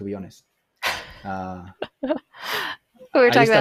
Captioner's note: laughs